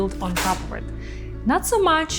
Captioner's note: tape peels